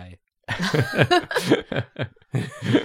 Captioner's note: laughter